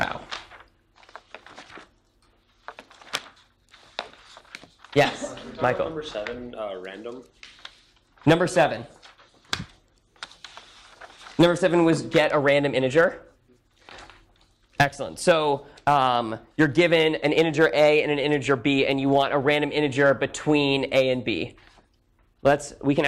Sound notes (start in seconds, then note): 1.1 paper rustling